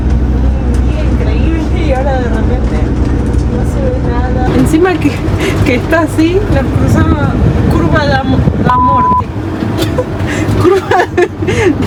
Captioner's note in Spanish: risas